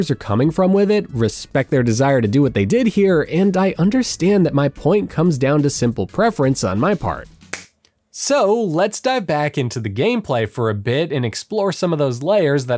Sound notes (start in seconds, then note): 7.3 slaps